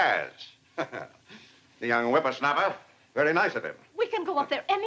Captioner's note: chuckles